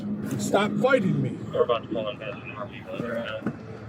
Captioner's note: radio chatter